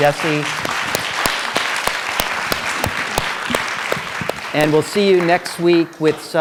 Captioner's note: applause